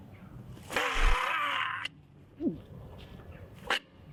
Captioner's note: Barry gurgles